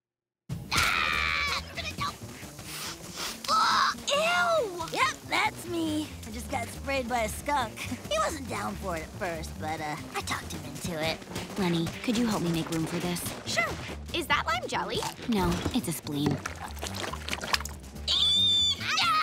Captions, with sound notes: [yelling] - Ugh, ew! - Yep, that's me. I just got sprayed by a skunk. He wasn't down for it at first, but I talked him into it. Leni, could you help me make room for this? Sure. Is that lime jelly? No, it's a spleen. [squealing]